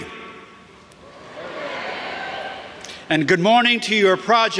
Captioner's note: audience cheers